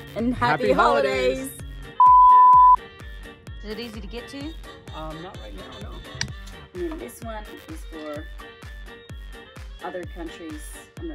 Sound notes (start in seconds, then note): 2.0 beeps